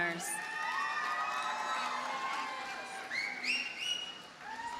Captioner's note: audience cheers and applauds